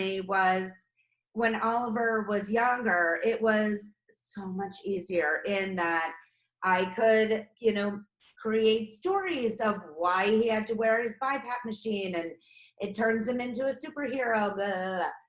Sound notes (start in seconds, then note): none